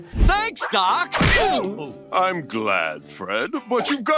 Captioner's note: foot kicking